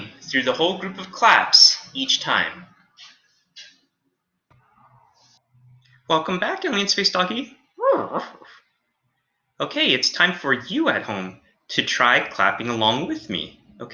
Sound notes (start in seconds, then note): 7.8 Alien Space Doggy whimpers